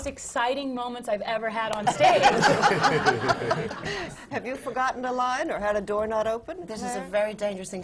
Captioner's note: laughter